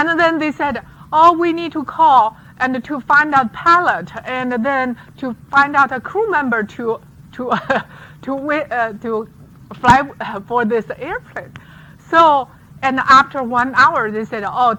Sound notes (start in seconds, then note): 7.5 laughs